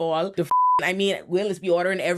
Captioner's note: beep